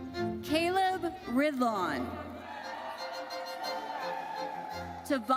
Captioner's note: audience cheers